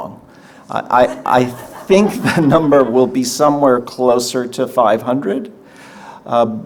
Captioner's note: audience laughter